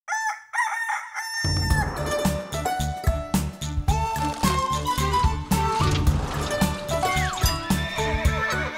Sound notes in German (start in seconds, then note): 0.0 Hahn kräht; 3.7 Titelmelodie